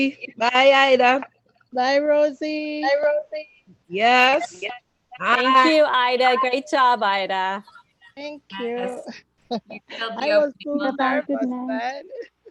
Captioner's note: communal goodbyes